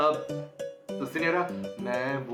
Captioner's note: speaking nervously